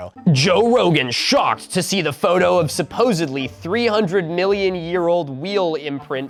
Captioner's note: mocking